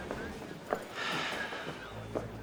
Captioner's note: sighs